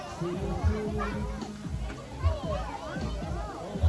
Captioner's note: flying drone, people chatting and enjoying the times